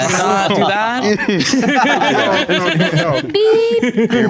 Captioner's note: group chattering; group laughing